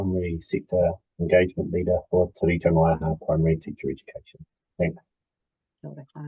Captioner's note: speaks te Reo Māori